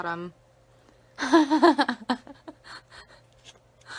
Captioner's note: laughs